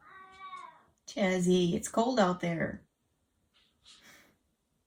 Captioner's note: Chaz meowing